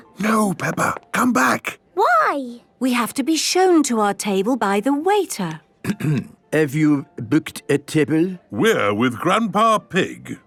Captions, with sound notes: - No, Peppa! Come back! - Why? - We have to be shown to our table by the waiter. - (clears throat) Have you booked a table? - We're with Grandpa Pig.